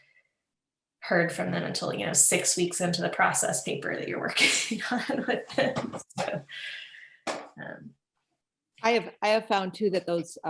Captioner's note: laughs